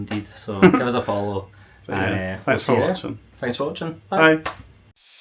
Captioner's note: laughs